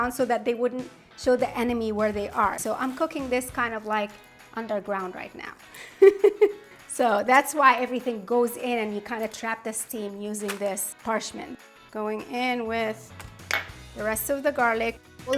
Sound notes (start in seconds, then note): 5.8 laughing